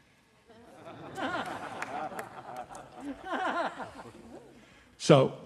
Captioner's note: audience laughing